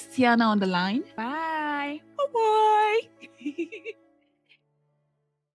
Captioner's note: laughs in craziness